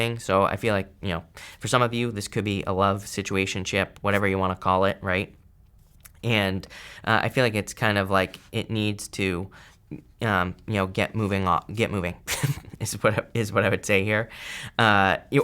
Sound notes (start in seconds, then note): 12.3 laughs